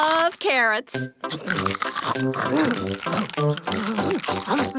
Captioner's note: crunch